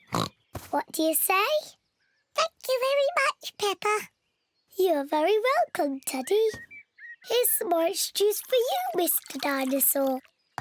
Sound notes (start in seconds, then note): 0.0 oinks; 2.1 in squeaky voice; 4.6 in normal voice